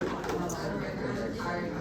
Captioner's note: people chattering